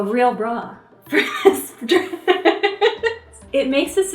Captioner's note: laughing